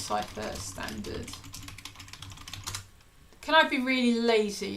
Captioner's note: keyboard clicking